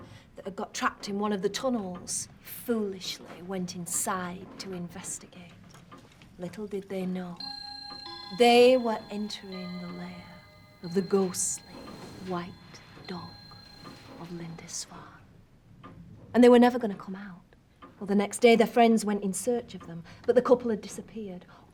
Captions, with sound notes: Thinking it was a dog that got trapped in one of the tunnels, foolishly went inside to investigate. Little did they know... -they were entering... -[clock chiming] -...the lair of the ghostly White Dog of Lindisfarne. And they were never gonna come out. The next day, their friends went in search of them